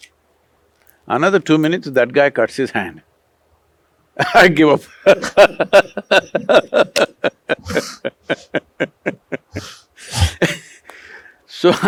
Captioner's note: laughs